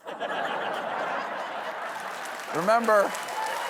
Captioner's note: laughter; applause